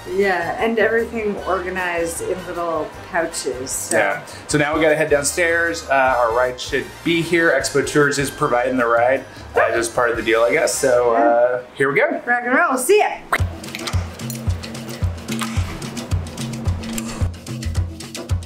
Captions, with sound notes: - Yeah and everything organized in little pouches, so. - Yeah. So now we gotta head downstairs. Our ride should be here. Expotur is providing the ride, as part, of the deal I guess, so here we go. - Rock and roll, see ya. (mouth squirting softly) (upbeat music)